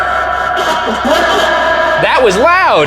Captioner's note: garbled voice shouts